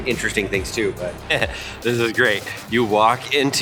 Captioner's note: chuckles